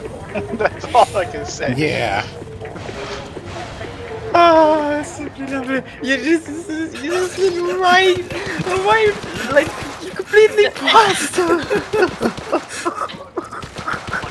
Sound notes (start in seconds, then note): 0.0 chuckles; 4.4 wind down from laugher; 7.2 stuttering